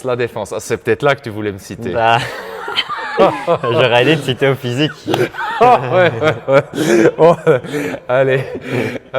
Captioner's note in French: rires